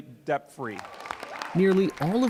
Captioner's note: cheering and applause